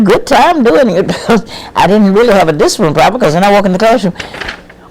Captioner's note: laughs